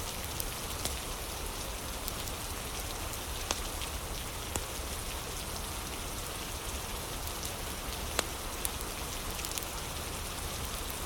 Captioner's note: fire crackling